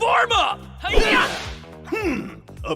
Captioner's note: karate sounds